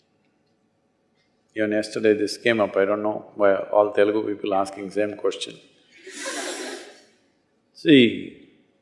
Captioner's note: laughter